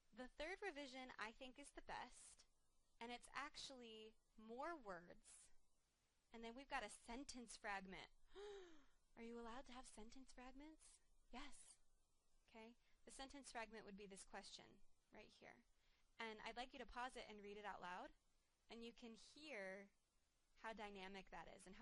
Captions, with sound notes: The third revision I think is the best, and it's actually more words and then we've got a sentence fragment. (gasps) Are you allowed to have sentence fragments? Yes, okay, the sentence fragment would be this question, right here, and I'd like you to pause it and read it out loud, and you can hear how dynamic that is